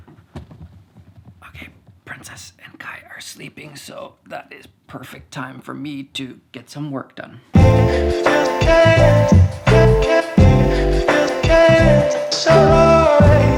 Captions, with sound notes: (whispers) Okay, Princess and Kai are sleeping so that is perfect time for me to get some work done. (soft music)